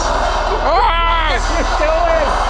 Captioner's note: Spirit Box blaring; shouting